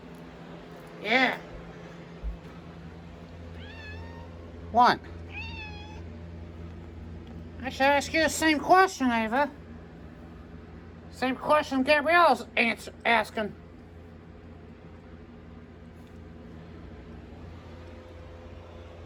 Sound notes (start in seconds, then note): 5.2 Caprice meows